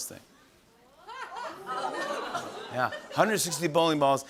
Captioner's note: laughter